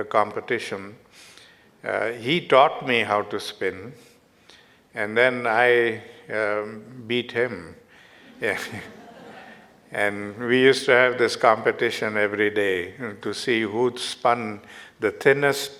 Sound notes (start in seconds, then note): 8.2 Arun and audience Laughter